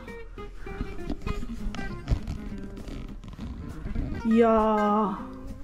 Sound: the sounds from my GoPro

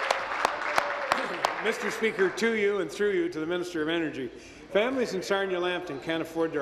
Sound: applause

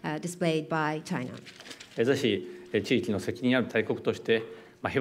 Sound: speaking japanese

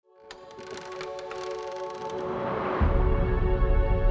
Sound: door creaks

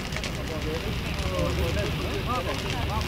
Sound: people chattering

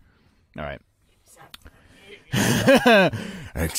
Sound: laughter

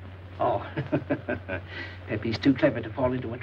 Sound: laughing

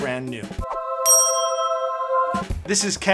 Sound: sparkling tone

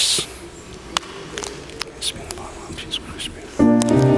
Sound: congregation murmuring; soft piano music

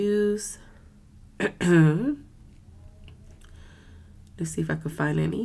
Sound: coughs

